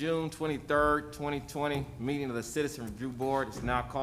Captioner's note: sounding gavel